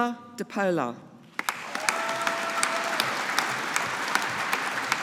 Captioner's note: audience applauding